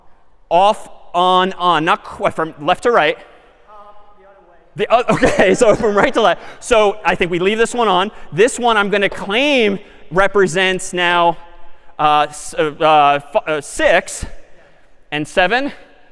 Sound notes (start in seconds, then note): 4.9 می خندد